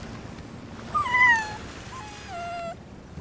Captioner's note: whine